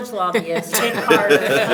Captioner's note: everyone laughs